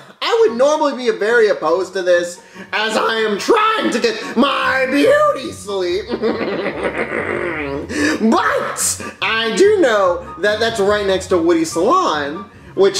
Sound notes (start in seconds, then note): 6.0 laughs menacingly